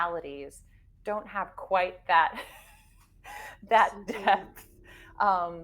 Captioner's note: chuckles